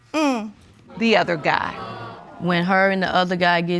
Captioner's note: audience groaning